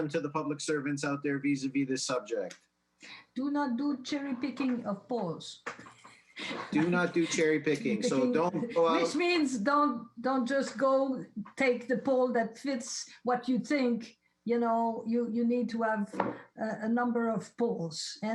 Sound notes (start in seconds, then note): 5.8 laughs